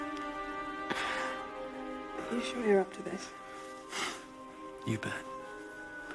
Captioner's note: Louise sighs